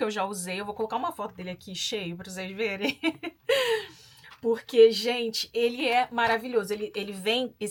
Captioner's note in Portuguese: risadas